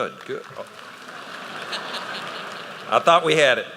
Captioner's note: laughter